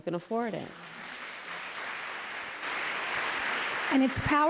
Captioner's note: applause